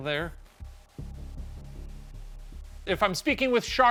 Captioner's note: suspenseful music; white noise